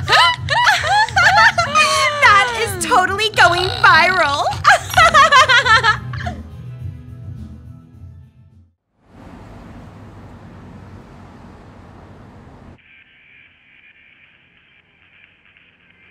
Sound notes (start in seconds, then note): 4.8 screaming laughter